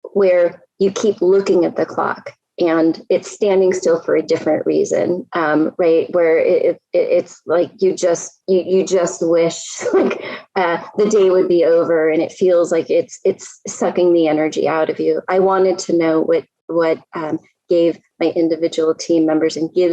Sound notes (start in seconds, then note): 10.7 laughs